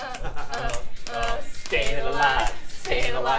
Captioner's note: clicking to beat